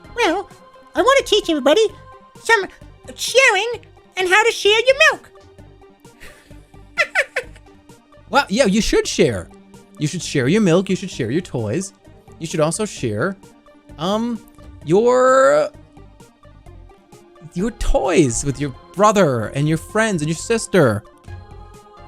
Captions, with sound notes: "Well, I want to teach everybody some sharing and how to share your milk." [elmo laugh] "Well, yeah, you should share." "You should share your milk." "You should share your toys. You should also share your..." "Your toys with your brother and your friends and your sister."